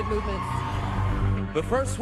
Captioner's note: cheering